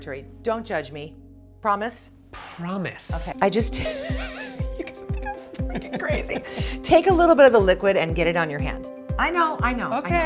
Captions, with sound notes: Don't judge me. Promise? - Promise. - Okay. I just (laughing). You guys think I'm freaking crazy. Take a little bit of the liquid and get it on your hand. I know, I know. - Okay.